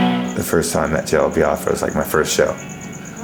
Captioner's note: laughing